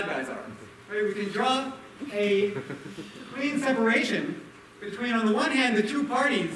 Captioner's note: laughter